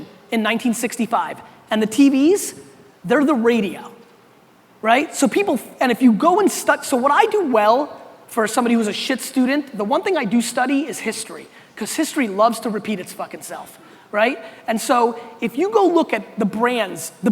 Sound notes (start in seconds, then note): 4.8 stammering